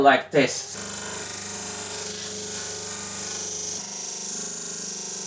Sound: disk sander whirring

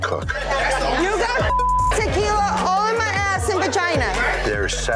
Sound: beeping

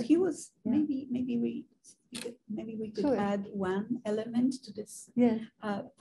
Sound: woman's Voice

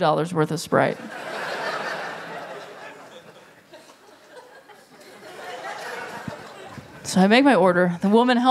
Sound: laughter

